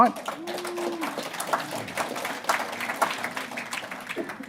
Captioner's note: audience applauds